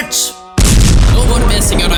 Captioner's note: explosion